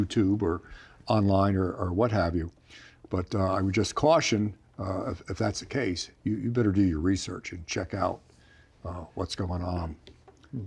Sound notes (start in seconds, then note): none